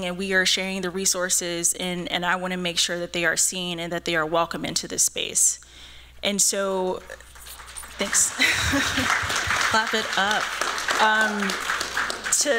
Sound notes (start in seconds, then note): 7.1 applause; 7.9 laughs